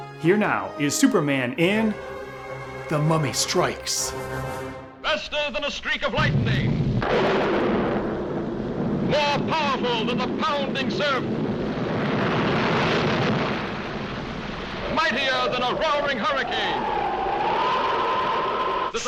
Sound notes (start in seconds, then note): 7.2 thunder cracks; 16.6 wind howls